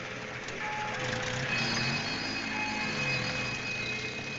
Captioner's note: police sirens